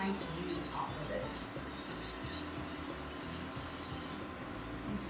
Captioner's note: scraping